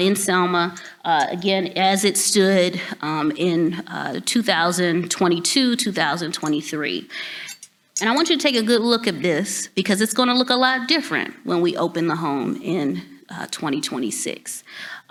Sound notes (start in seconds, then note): none